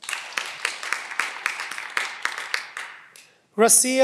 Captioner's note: cheering